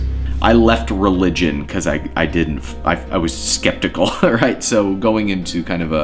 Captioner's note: chuckles